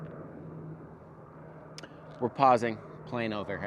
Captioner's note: overhead airplane humming